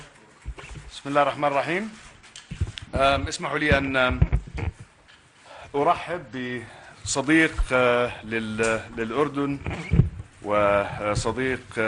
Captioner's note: in Arabic